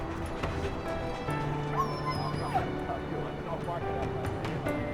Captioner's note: whining